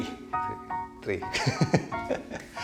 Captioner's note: laughs